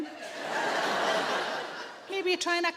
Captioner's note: audience laughing